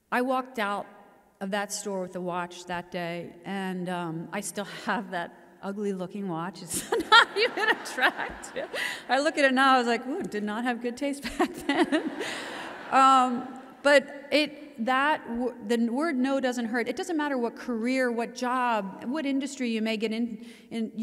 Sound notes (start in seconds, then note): 11.4 audience laughs